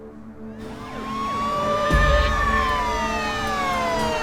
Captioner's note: sirens blaring